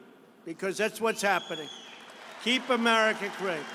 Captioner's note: applause